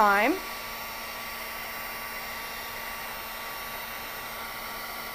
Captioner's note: buzzing